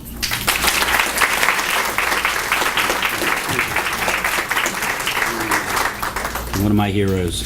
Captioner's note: applause